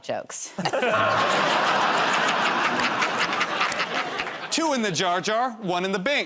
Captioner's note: laughter